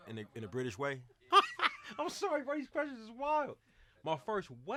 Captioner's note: laughter